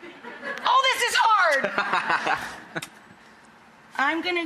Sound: laughs

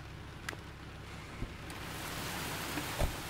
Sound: door opens; door closes

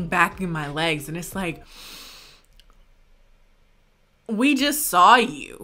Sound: inhales loudly

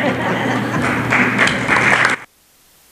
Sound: applause

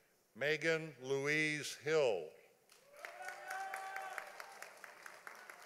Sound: audience applauding

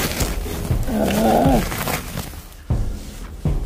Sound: grunts in frustration

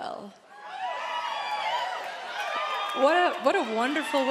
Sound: crowd cheering

